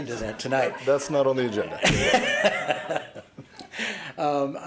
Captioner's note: laughter